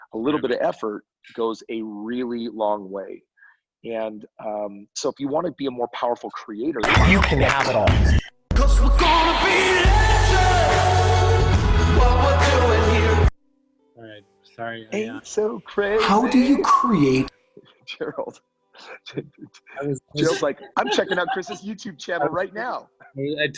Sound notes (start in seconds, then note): 18.8 laughs